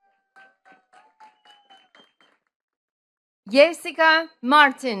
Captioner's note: attendees cheering and clapping